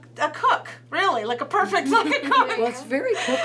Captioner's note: laughs